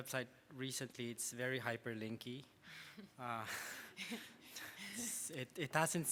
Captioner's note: laughs